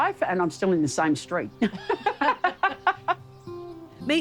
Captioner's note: both laugh